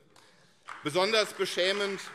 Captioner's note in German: Beifall CDU, SPD und vereinzelt BÜNDNIS 90/DIE GRÜNEN